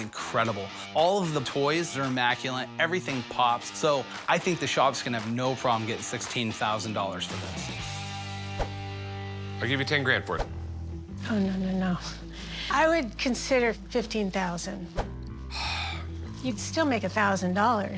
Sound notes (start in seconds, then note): 15.4 sighs